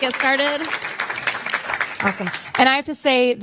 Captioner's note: applause